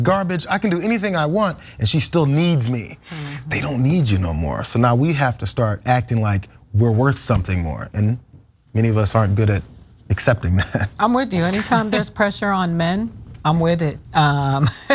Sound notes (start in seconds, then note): 11.4 laugh; 14.7 laugh